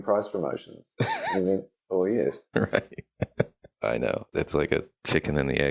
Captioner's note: laughing